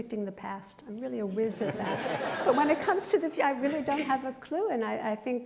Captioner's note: laughter